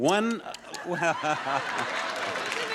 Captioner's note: audience laughs; laughs